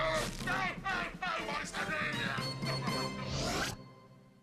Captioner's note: groaning